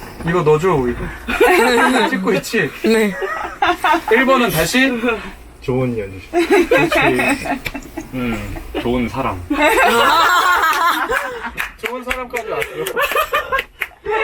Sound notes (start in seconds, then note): 1.2 everyone's laughter; 9.5 laughter